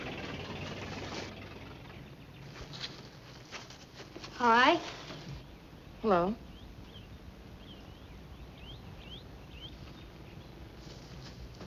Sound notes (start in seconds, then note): 0.0 car backfiring